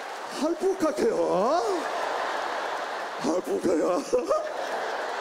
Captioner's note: continues imitating Korean